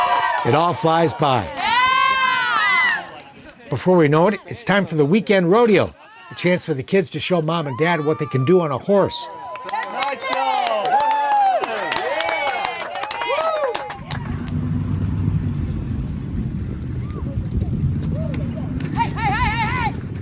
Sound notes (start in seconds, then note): 0.0 people cheering; 9.4 people cheering; 14.0 hooves stomping